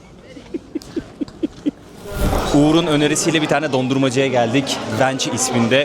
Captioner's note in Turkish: kahkaha